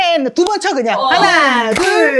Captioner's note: clap